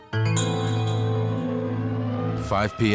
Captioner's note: sirens